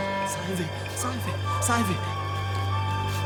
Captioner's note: man speaking foreign language; ominous music continues